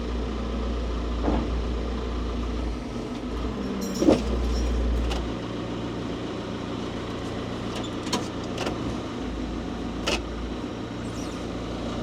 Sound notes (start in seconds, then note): 3.9 logs thudding; 5.3 engine humming continues